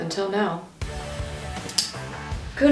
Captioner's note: pen click